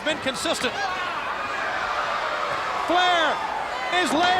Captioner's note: crowd cheering; Ric exclaiming